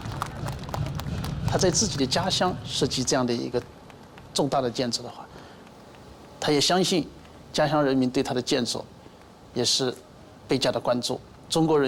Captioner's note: man speaking Chinese